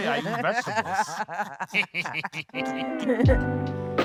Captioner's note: everyone laughing